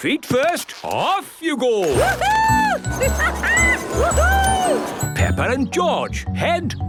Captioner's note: laughing and exclaiming